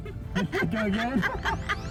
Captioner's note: laughing